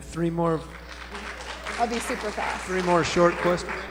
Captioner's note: applause